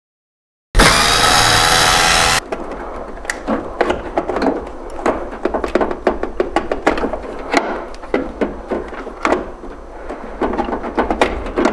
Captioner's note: board disassembly noise